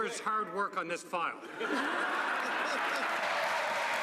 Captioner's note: some Applause